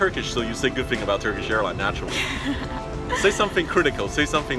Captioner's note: light laugh